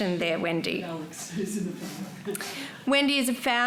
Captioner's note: chuckles